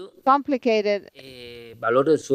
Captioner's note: speaking spanish